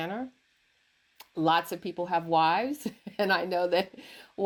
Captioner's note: laughs